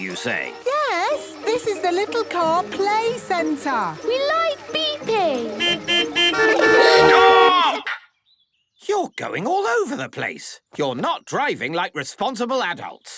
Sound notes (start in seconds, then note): 5.1 horns beeping